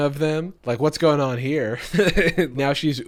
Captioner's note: laughs